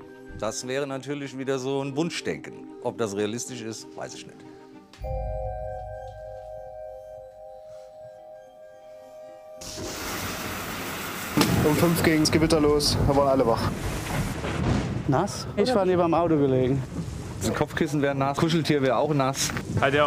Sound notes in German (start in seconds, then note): 5.0 Lang anhaltender Ton